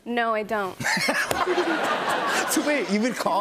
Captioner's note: laughter